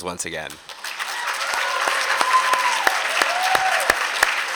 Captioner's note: applause